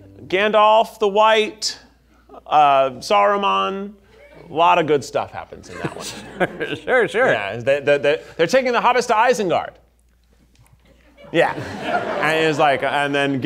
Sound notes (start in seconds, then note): 5.5 chuckling; 10.9 audience laughing